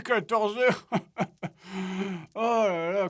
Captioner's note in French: rire